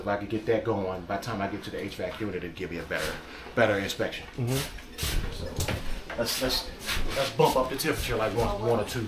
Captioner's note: hvac